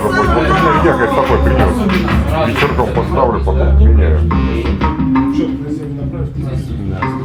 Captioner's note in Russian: смех